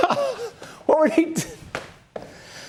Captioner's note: laughter